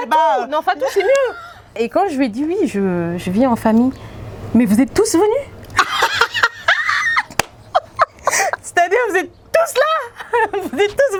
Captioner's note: laughs; laughs